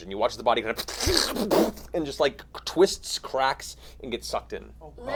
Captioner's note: crackling